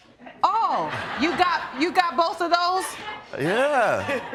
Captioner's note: audience laughs